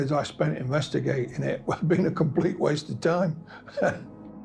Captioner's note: chuckles